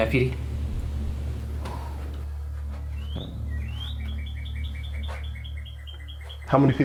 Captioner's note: birds from outside